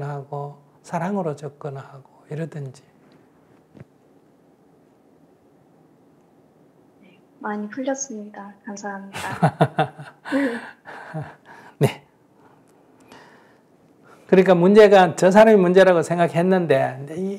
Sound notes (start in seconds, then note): 9.2 /Questioner Laughter